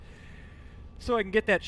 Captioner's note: sharp inhale